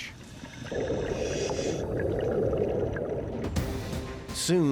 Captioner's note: water burbling, breathing through air hose